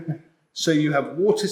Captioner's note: laugh